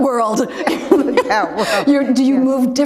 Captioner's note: chuckle